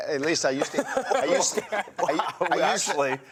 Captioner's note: all laugh